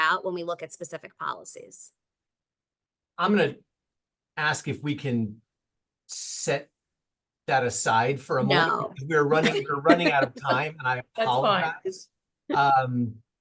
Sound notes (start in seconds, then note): 8.4 laughing